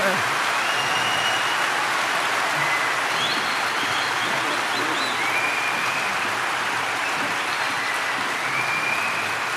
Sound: applause and cheering

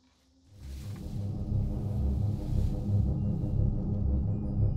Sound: pulsing noises

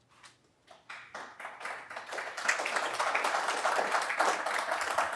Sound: audience applauding

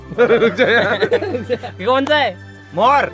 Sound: laughing

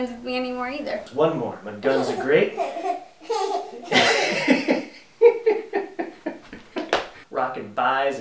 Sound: baby laughing

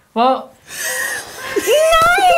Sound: gasps

